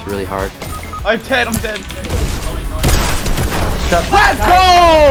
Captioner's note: gunfire